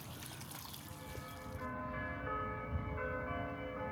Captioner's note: sound of church bells ringing